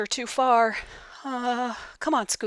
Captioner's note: nervous